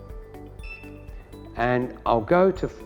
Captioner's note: camera beeps